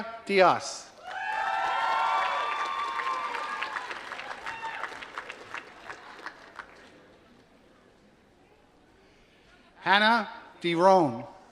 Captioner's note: applause